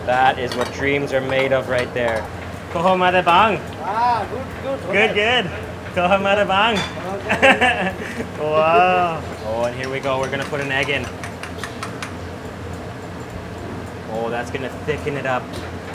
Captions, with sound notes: That is what dreams are made of right there. - Ah, good, good. - Good, good. (speaks in foreign language) (chuckles) Wow. Oh, here we go. We're gonna put an egg in. Oh, that's gonna thicken it up.